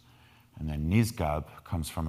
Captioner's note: speaking in foreign language